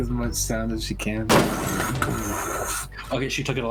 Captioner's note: tshhh